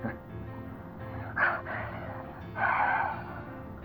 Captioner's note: Frank angrily scoffs